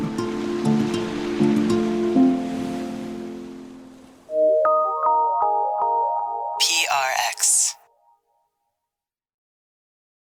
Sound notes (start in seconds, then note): 0.0 gentle music; 6.6 automated Voice